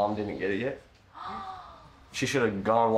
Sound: gasping

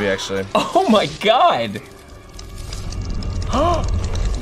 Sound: gasps

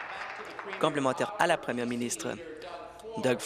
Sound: applause

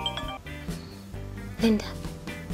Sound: breathes in

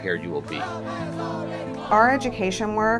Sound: chanting

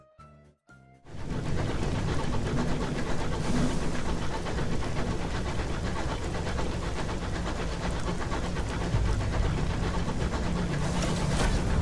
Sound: quiet rustling of rain and busy huffing of steam machinery

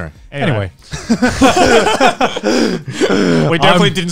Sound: everyone laughs

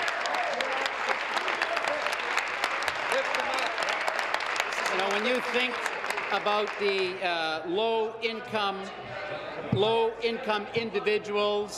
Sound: applause

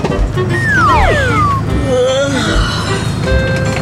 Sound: yawn~ing

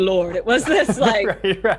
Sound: laughs

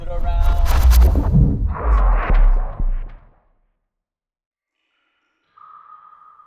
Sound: spacey synthesized sound effect

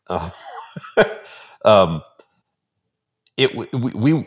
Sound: laughing

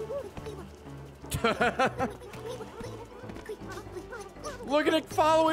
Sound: laughs

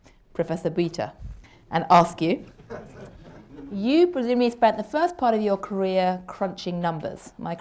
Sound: laughter

